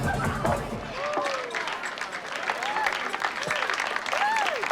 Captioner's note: applause; music Stops